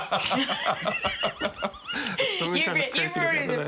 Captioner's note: laughter